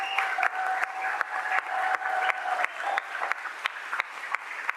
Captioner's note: audience applauding